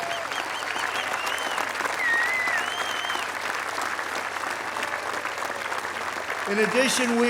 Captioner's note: applause